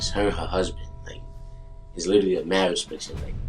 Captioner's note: bell dongs